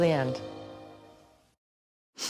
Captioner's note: sniffs